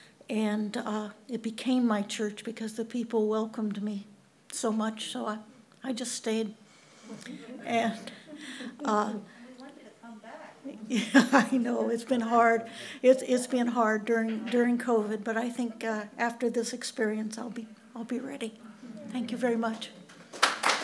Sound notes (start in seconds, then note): 7.1 audience chuckles; 11.2 laughs; 20.0 audience applauds